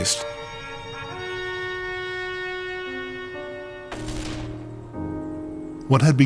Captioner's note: horn sounding, guns firing